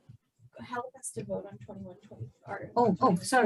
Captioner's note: speaking low in background